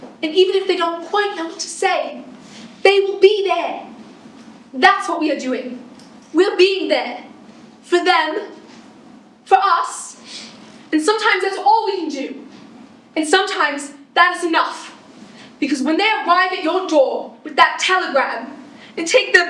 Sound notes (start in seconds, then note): none